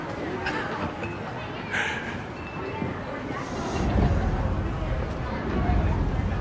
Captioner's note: indistinct chatter